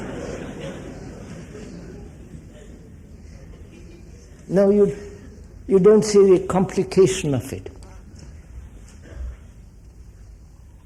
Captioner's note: laughter